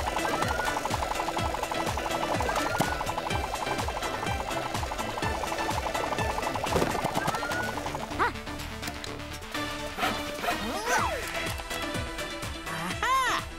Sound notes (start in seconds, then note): 10.0 grunting